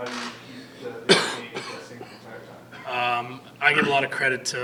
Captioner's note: coughs